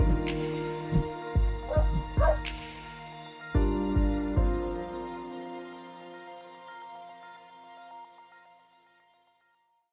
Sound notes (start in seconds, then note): 2.2 dog barking; 3.9 soft instrumental music